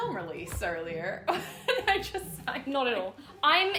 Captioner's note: laughing